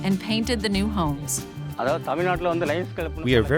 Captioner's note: man speaking native language